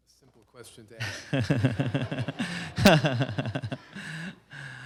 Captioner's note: laughter